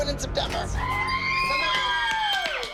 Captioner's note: girls cheering